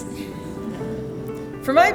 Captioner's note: laughing